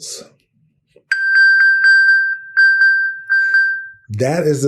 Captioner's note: electronic bell